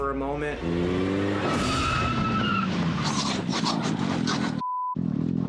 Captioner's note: car screeching; beep